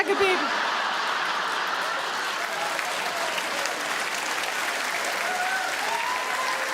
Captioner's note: audience laugh; audience clap